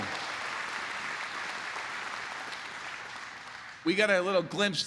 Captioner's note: applause